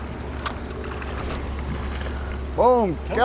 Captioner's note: reel clicking